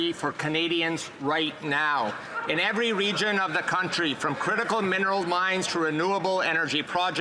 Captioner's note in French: voix de l'interprète